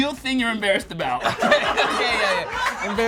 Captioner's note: all laugh